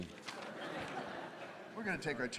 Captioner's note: audience laughing